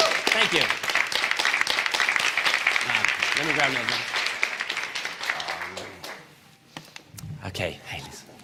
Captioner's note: applause